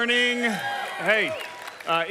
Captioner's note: audience cheers